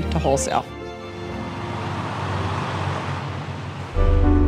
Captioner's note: truck engine; cheerful music